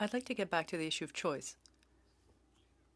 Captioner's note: speaking French